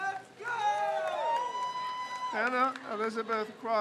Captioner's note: crowd cheers